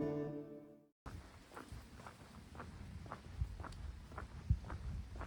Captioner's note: footsteps